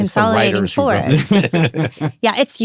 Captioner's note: all laughing